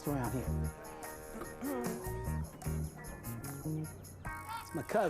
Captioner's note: clears throat